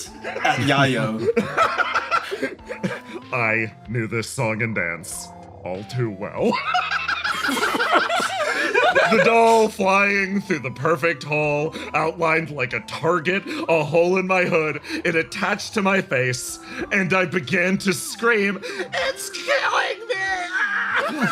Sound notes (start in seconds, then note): 0.2 laugh; 6.5 laughs